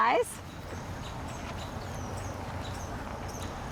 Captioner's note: birds squawking; waves lapping